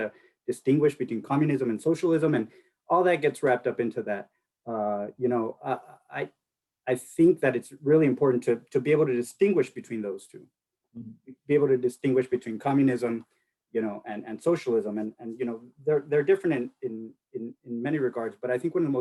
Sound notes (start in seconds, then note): none